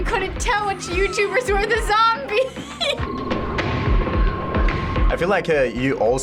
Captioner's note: laughs